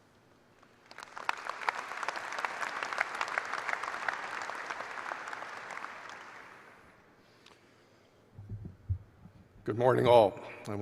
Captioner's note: applause